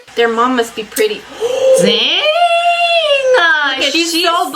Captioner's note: gasps